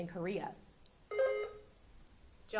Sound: buzzer sounding

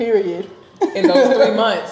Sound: laughing

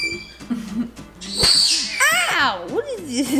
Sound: loud whacking

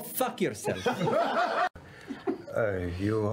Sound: laughing

